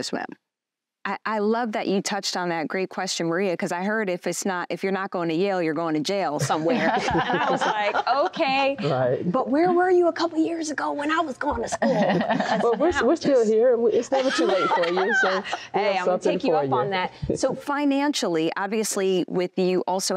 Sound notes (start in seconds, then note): 11.6 laughter